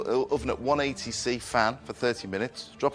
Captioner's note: none